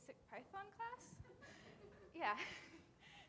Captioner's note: audience laughing